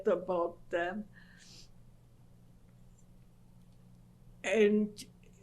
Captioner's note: pauses for 3 seconds